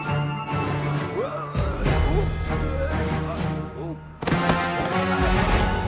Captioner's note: LEGO figure groaning